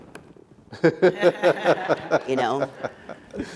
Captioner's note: laughing